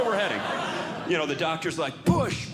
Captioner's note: audience Laughing